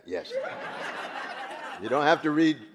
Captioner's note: audience laughing